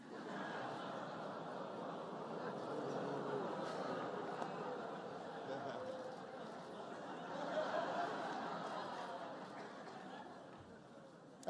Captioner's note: laughter